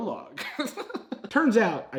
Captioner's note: laughs